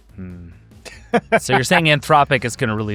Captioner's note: laughs